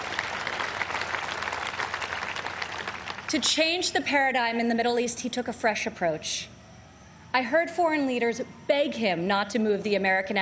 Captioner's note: applause